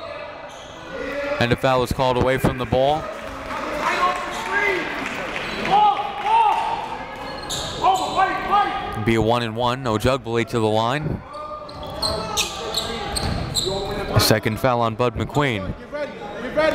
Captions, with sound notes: Obrey. (whistle blows) And the foul is called away from the bowl. (cheering and yelling) It'll be a one-and-one, Ojugbele to the line. A second foul on Badih McQueen.